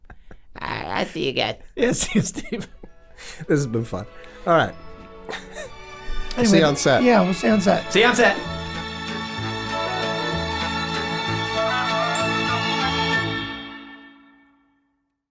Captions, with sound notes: - I see you again. - This is deep (laughs). This has been fun, all right. (calm music plays) - I'll see you on set. - Yeah, we'll see you on set. - See you on set. (calm music plays)